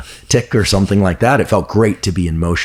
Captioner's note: chuckles